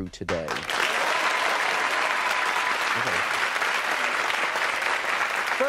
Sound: audience cheering and applauding

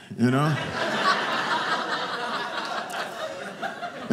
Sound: audience laughing

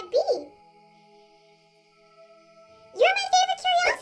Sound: crickets, soft music

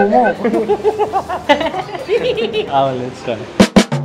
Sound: laughing

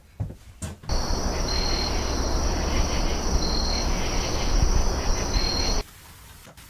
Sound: insects chirping; birds squawking

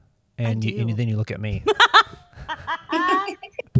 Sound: laughter

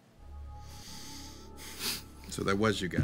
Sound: sighs

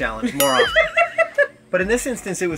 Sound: laughter

